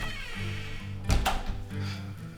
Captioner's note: door opens; door closes